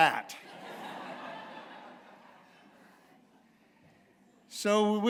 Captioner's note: laughter